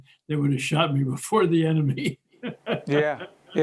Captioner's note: laughing